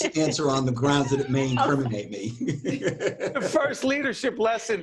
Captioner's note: all laughing